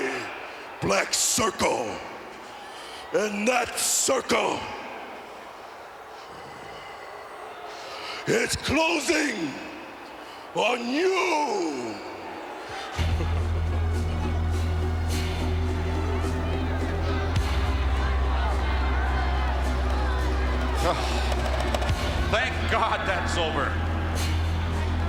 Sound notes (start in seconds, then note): 12.6 laugh